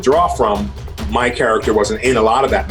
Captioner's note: chuckles